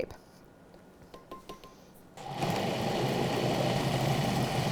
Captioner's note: mixer whirring